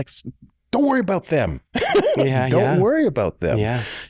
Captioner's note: chuckles